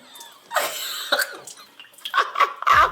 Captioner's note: laughing